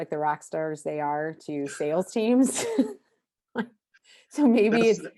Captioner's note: chuckles